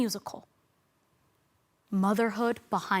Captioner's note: silent